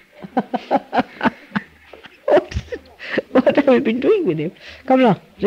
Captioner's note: Shri Mataji laughs